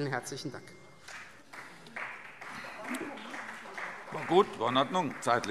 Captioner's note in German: Beifall Freie Demokraten und vereinzelt SPD